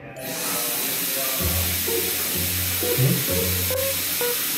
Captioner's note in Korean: 가스 새는 소리...?